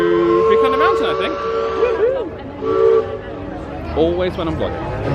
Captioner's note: train toots